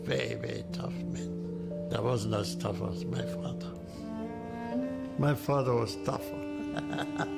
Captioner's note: laughs